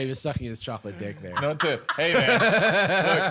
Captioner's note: laughs